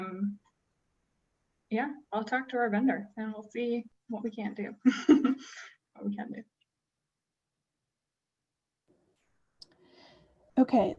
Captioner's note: laughter